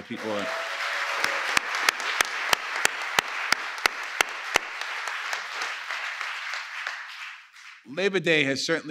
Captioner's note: applause